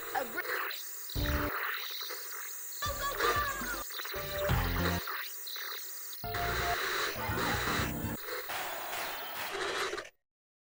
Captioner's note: static sound; silence